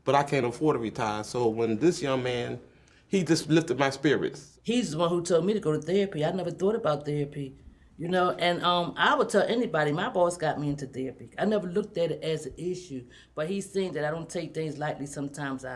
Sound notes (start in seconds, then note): none